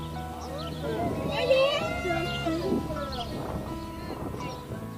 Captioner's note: light music; crowd cheering